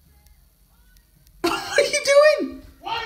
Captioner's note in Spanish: Risas